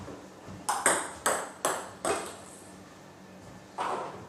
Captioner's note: balls ping pong hitting